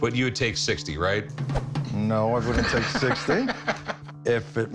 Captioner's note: laughs